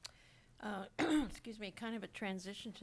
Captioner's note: coughs